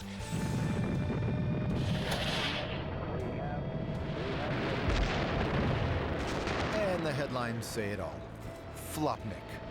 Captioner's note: explosion